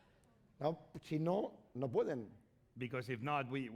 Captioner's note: speaking spanish